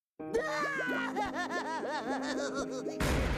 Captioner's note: crying